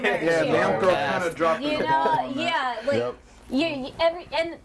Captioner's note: overlapping chatter